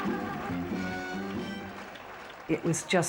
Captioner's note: gentle music; crowd cheering